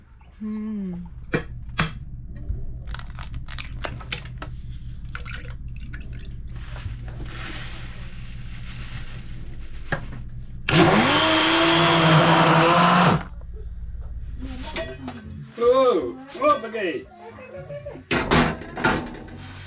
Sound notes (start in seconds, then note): 2.8 eggs cracking; 3.1 milk pouring; 10.6 blender mixing